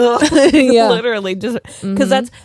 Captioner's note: vibrating